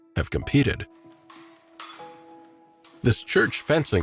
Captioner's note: swords clanking